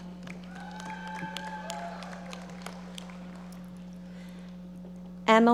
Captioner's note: audience applauding